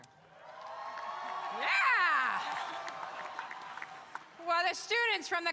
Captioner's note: audience cheering